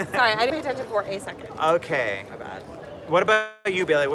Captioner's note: laughter